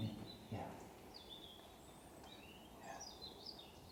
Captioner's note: birds chirping